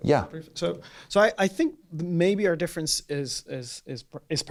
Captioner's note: voiceover